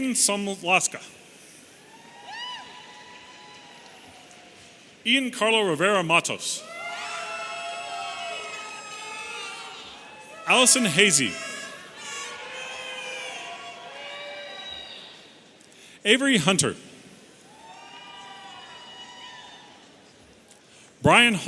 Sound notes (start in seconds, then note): 6.5 audience cheering; 17.4 audience cheering